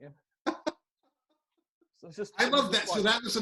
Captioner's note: laughing